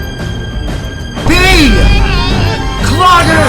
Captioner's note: surprised adoption noises